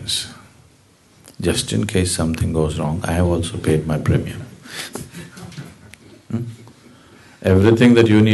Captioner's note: laughs